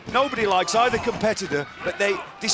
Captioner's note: crowd chatter